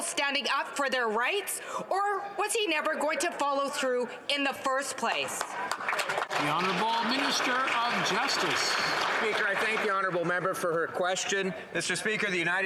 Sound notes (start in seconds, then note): 8.6 some Applause